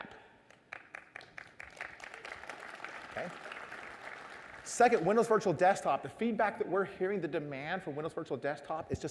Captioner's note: applause